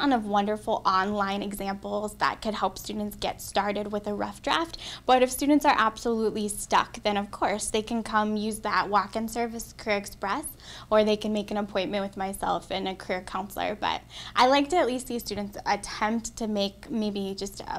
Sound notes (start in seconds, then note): none